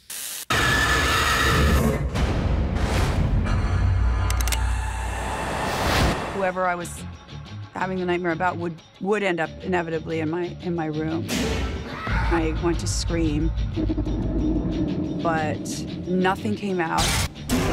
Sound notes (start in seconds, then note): 0.5 screams; 4.3 gun clicks